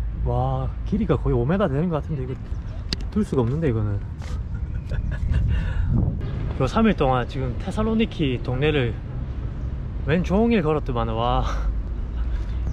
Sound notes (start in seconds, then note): 4.2 laughing